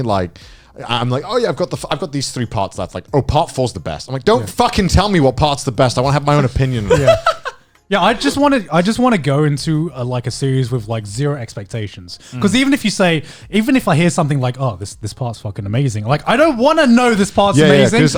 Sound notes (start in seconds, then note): 6.6 Joey laughs